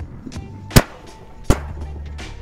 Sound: fireworks popping

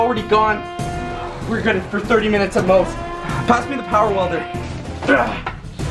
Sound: grunt

